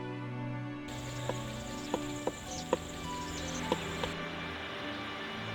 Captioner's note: woodpecker tapping